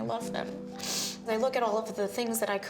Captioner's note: sniffles